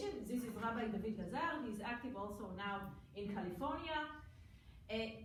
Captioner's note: foreign language